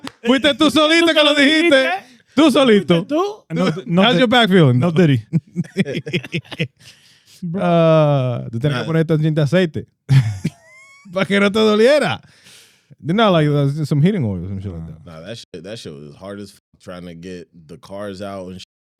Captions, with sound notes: (Speaking In Foreign Language) How's your back feeling? (Speaking In Foreign Language) (Laughing) (Speaking In Foreign Language) You know, like some heating oil. Nah, that was hard as trying to get the cars out and